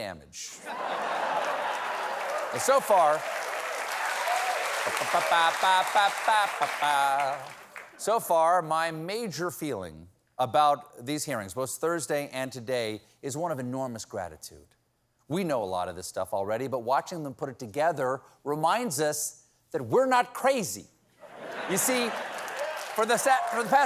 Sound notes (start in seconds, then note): 8.1 cheers and applause